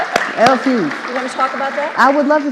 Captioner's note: audience applauding